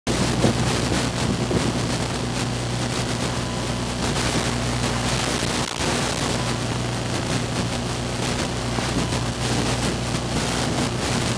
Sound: static noise

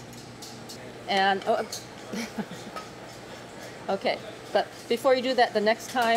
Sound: laughs

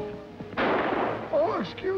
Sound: gun shot

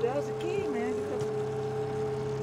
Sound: trolling motor humming

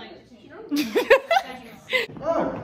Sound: laughs

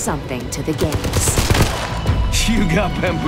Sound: gunfire

